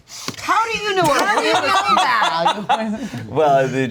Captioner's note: laughing